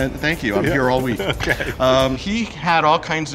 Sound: laughing

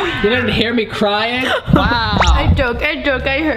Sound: laughs

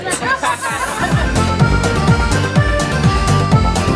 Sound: laughing

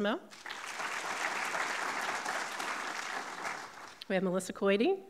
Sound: audience clapping

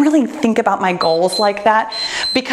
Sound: timer beeps

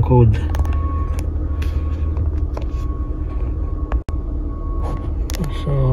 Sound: beeping sound

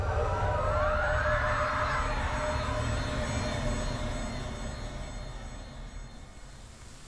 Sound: horrified scream; echoes of scream slowly fade

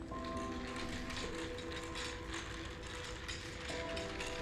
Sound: wheels rattling

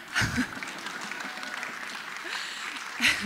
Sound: applause

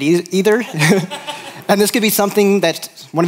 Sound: laughter

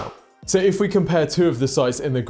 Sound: screen wipe whooshes

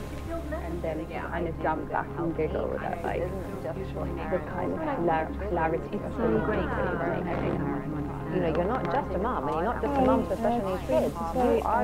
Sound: sound of layered conversation between mothers

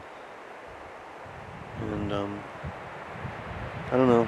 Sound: wind whooshing

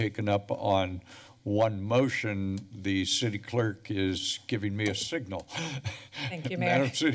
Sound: chuckles

